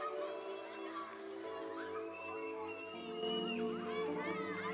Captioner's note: children laughing